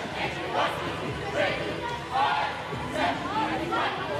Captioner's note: cheerleaders chanting